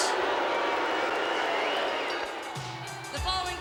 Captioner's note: crowd boos